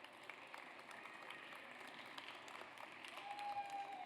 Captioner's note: audience applauds